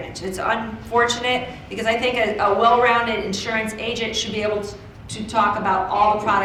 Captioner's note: none